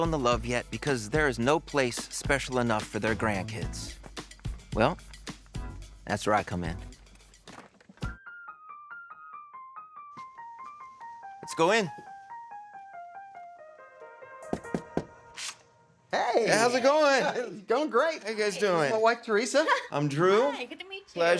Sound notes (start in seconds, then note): 8.1 gentle music; 14.5 Drew knocks